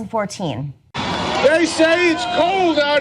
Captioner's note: cheers and applause